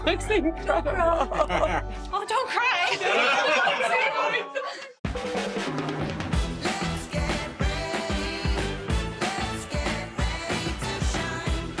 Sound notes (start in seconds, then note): 2.6 crowd laughs; 5.0 upbeat music